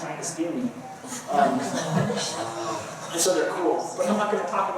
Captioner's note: laughter